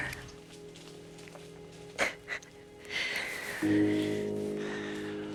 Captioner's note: crying